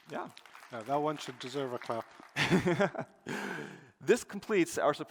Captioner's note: applause